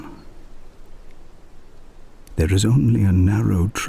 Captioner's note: wind and birdsong